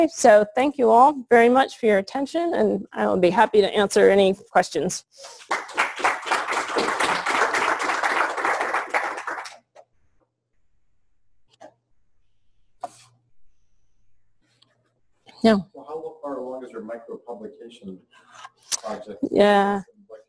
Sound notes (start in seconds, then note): 5.3 clapping; 9.7 pause